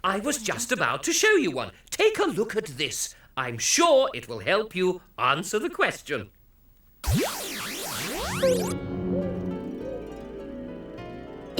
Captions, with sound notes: I was just about to show you one, take a look at this. I'm sure it will help you answer the question. (soft zap)